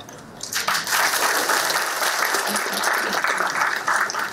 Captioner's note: applause